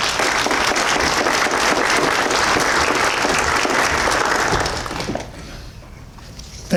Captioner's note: applause